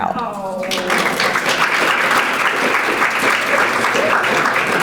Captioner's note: audience applauding